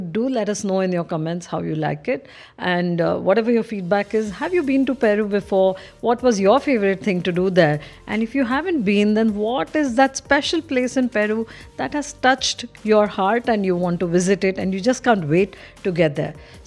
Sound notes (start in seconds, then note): none